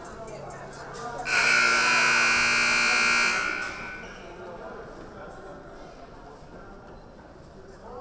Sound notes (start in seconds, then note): 1.2 siren buzzing